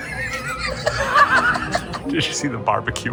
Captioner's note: laughs